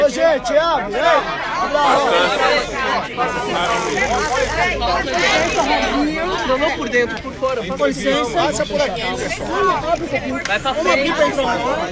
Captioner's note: crowd crying